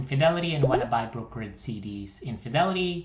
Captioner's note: bubble popping